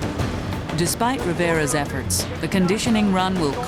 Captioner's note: voiceover